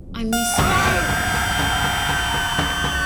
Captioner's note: heart monitor flat lining; Max screaming; intense music